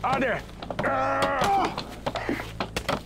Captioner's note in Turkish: Bağırma sesi